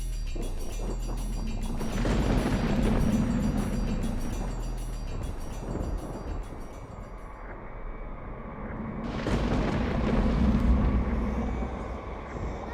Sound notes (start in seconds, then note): 0.3 thunder crashing; 2.8 air whooshing; 5.5 intense music; 9.0 thunder crashing